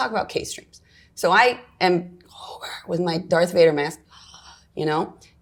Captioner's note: breathes heavily